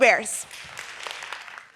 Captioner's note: audience applauding